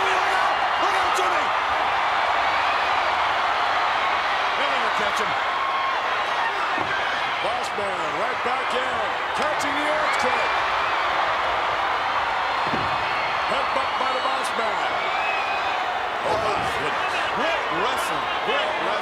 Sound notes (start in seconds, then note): 3.3 crowd cheering; 10.9 crowd cheering